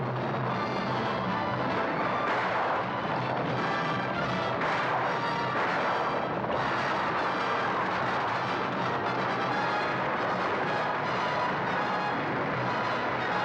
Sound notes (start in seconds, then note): 1.9 dramatic music; 1.9 guns firing